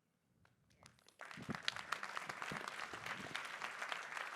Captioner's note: applause